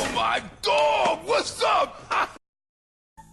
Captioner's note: laughs